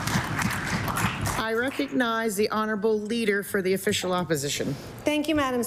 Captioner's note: applause